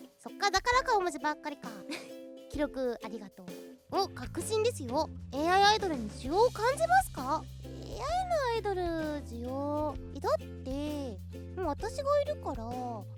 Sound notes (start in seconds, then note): 1.7 snickers